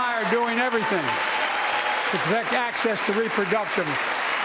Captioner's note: applause